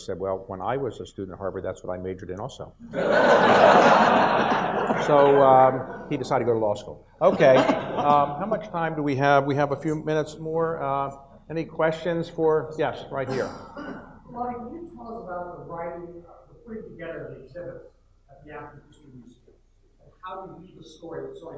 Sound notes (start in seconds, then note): 2.9 audience laughs; 7.3 audience laughs